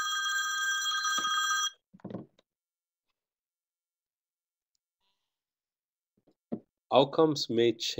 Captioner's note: phone ringing - 19:13